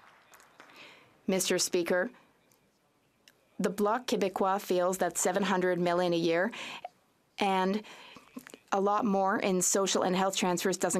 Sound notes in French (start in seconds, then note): 2.8 voix de l'interprète